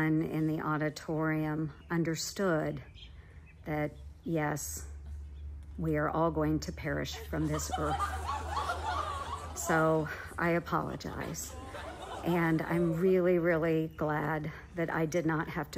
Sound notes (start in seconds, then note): 7.1 audience laughing